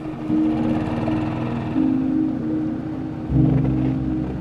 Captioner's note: engine buzzing